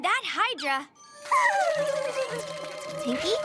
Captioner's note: shudders